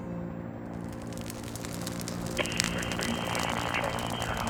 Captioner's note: fire crackling